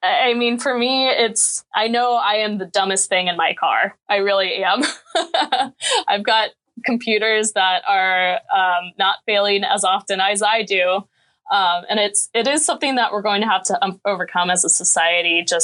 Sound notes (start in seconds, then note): 4.8 laughing